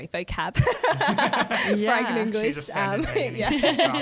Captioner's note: laughter